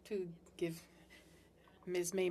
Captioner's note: speaking French